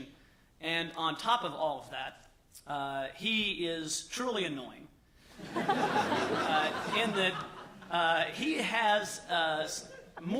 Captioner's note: laughter